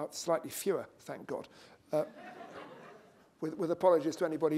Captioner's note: laughter